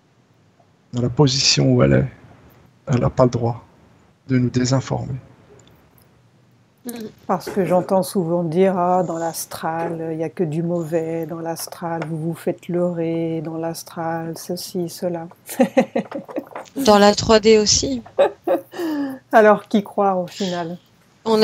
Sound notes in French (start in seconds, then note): 15.4 rires